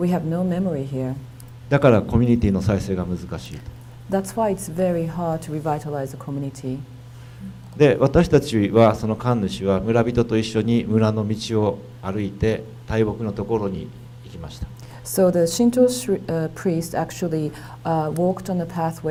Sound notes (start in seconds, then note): 8.1 speaking foreign language